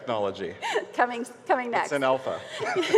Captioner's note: laughs